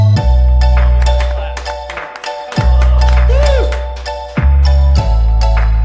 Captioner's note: upbeat electronica music; clapping